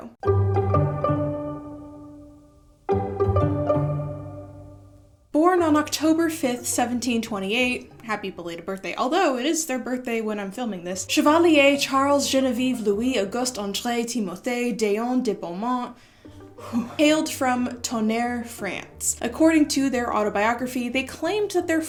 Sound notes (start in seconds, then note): 15.9 exhausted sigh